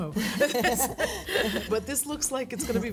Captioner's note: laughs